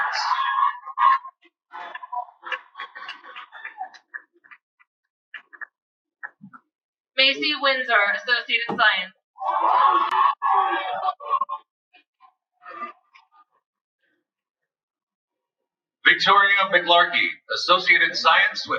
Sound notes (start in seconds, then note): 0.0 cheering; 9.4 cheering